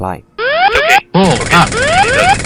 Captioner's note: sound of stick shaker